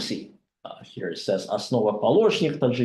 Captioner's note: speaking Russian